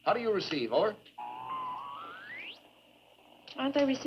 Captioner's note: radio whistling